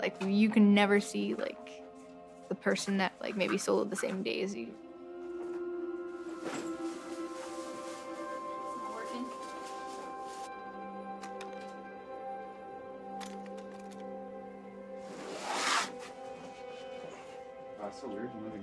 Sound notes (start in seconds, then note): 11.2 rattling; 15.0 bag scrapes